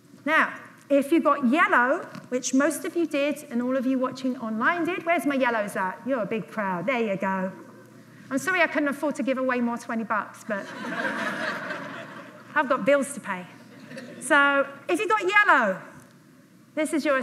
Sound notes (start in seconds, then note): 13.8 audience laughs loudly